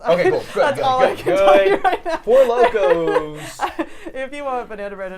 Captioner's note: laughs